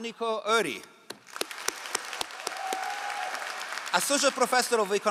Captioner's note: all applauding